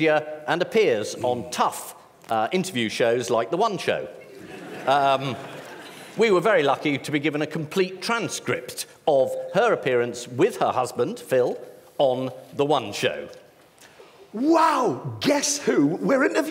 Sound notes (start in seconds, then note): 4.2 laughter